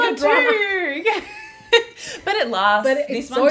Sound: laughs

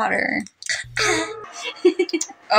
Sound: laugh

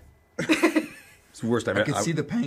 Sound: laughter

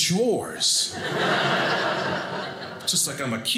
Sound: audience laughing

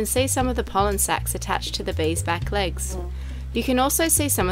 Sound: bee wings whir

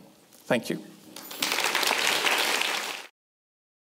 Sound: applause

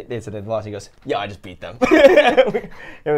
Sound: laugh

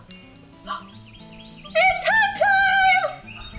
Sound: ringing

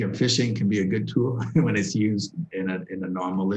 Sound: laughter

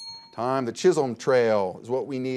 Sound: bell dings

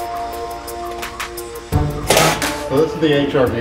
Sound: power tool sounds

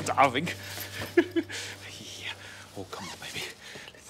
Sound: laughs

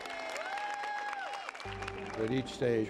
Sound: applause

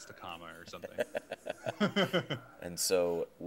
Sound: laughing

